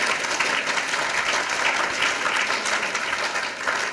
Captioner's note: applause